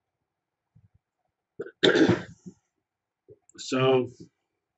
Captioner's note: cough